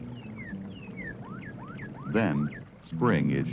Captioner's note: cardinal song